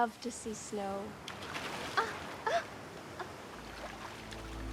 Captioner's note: gasping; dramatic music